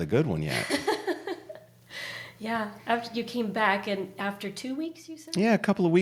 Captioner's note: laughter